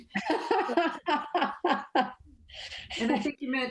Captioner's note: laughs